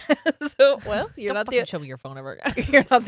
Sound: laughs

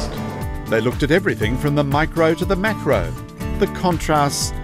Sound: voiceover

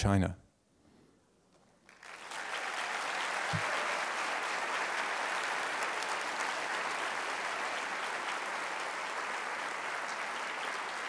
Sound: applause

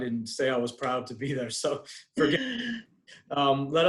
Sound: faintly speaking

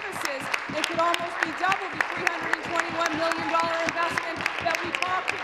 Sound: applause

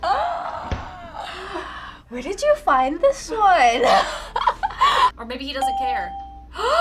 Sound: laughs

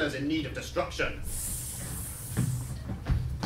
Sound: snake hissing

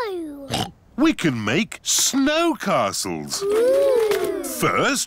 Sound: oinks

